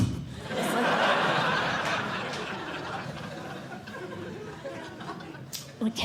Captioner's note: laughter